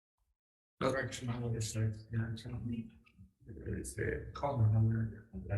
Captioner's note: man speaking faintly off mic